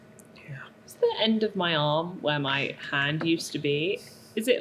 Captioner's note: whispers